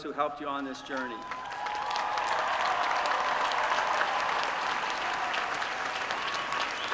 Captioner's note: applause